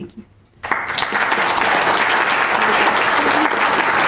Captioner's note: audience applauds